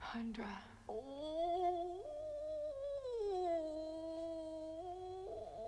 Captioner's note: Chrysula moaning